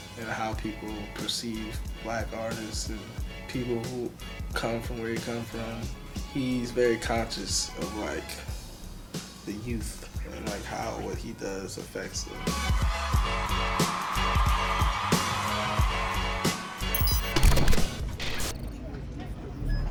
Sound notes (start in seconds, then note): 12.9 applause from audience; 16.9 soft rock music